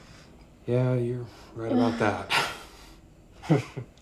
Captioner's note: laughs; Ben chuckles